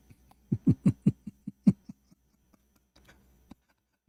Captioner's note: Ketawa